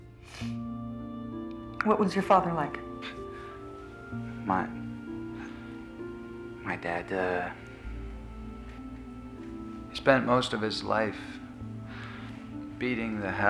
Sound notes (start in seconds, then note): 3.1 chuckles